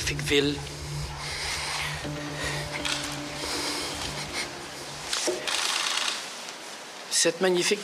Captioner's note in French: sanglots